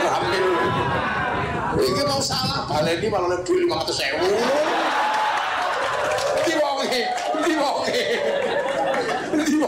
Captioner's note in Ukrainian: Оплески